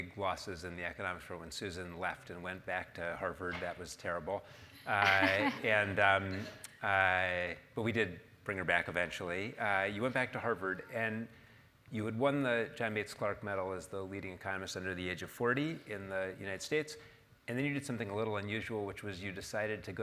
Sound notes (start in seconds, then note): 4.8 laugh